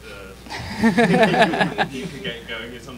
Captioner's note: laughs